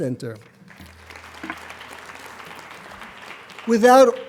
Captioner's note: applauding